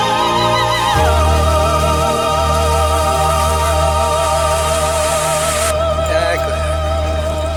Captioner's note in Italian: Applauso